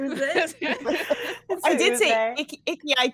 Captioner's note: all laughing